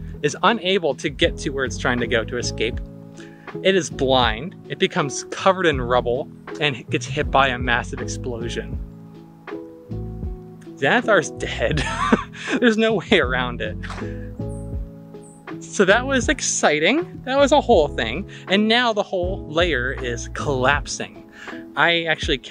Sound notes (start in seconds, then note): 11.6 laughs heartily